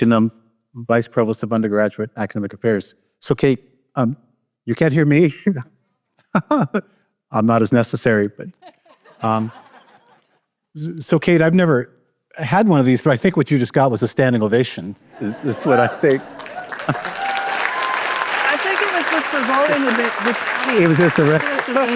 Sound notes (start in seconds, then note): 8.5 laughter; 16.1 applause